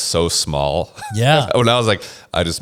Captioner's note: laughs